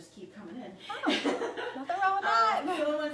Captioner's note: laughs